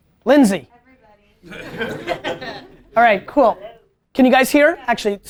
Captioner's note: group laughter